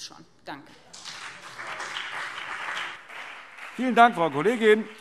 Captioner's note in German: Beifall BÜNDNIS 90/DIE GRÜNEN und CDU